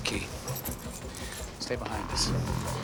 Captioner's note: whirring